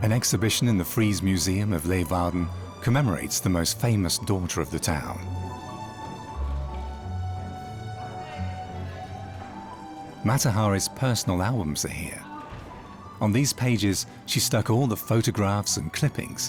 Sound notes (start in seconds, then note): none